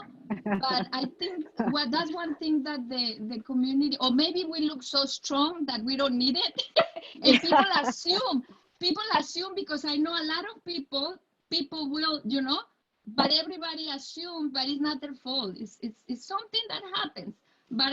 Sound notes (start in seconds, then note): 0.4 laughing; 6.6 laughs